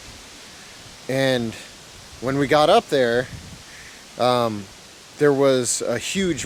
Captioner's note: wind whooshing